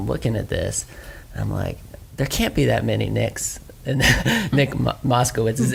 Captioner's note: laughs